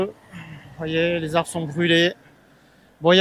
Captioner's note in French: raclement de gorge